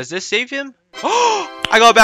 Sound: intensified gasp

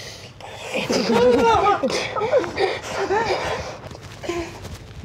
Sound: squeals in fear; both pant

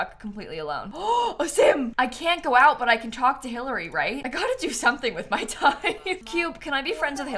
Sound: gasps

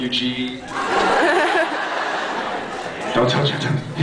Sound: laughs

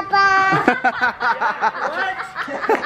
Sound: laughter

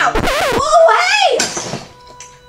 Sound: record scratches

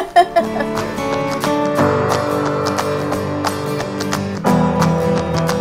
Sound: laughter

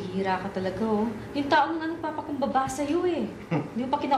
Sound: Fidel scoffs

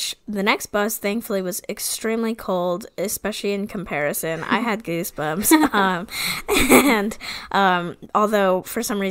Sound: laughs

